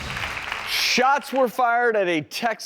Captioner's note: applause